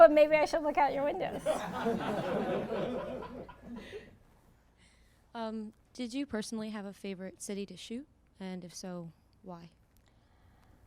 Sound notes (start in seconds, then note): 1.4 audience laughter